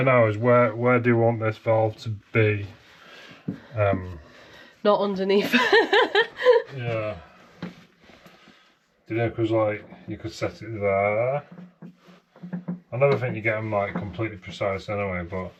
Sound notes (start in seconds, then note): 5.4 laughs